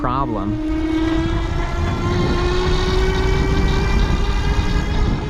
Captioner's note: bicycles electric motor roaring